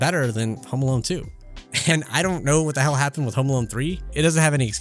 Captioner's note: laughing